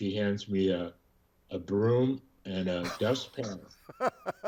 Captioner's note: laughs